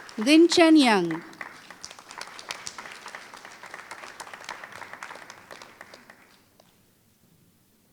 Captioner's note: applause